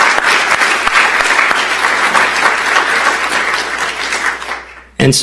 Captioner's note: applause